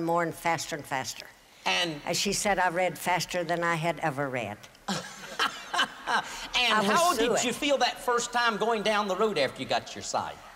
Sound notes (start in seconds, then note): 5.5 boisterous laughter